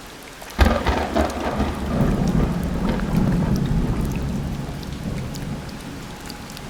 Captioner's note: loud rain and nearby thunder